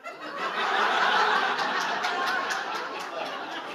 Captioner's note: audience laughing